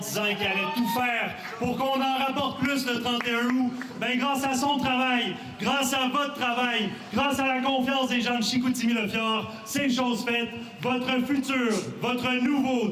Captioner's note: speaking French